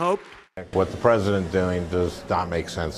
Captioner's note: applause